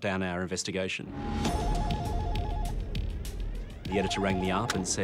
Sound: phone rings

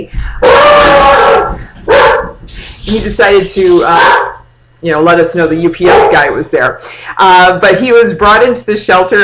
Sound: dog barks

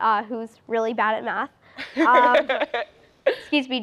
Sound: laughs

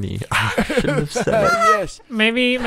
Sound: laughter

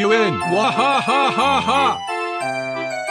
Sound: retarded Laughter

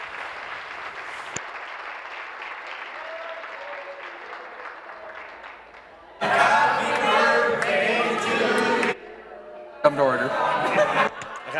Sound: applause

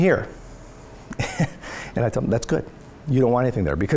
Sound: laughs

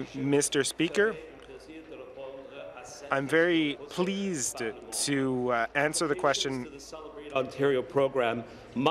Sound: speaking in French

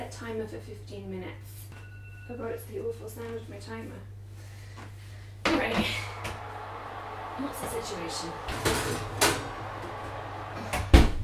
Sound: whispers

